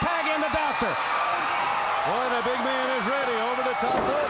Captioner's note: crowd cheering